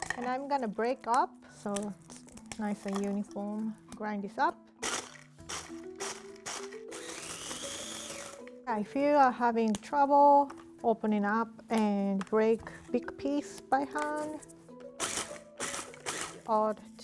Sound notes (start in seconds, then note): 6.4 food processor running; 15.0 food processor running